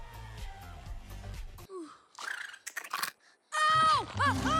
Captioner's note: screams